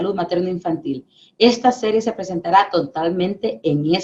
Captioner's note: speaking spanish